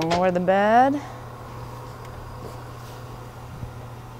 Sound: bed humming

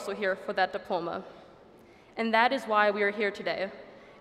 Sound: none

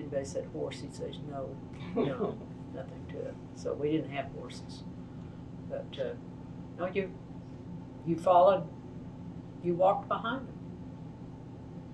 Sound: laughter

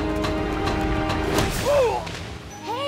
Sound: groaning

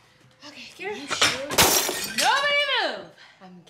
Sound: ceramic breaking

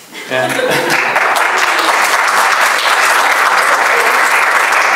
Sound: audience applauding

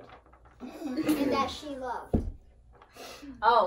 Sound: adults laugh

